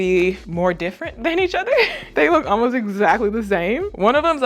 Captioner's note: laughs